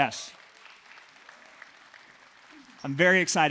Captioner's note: clapping